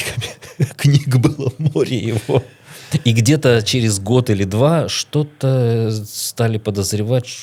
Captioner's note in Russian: смех